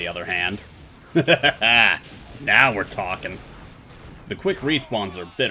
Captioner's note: cathartic laugh